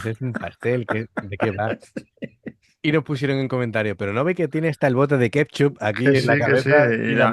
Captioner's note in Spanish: risas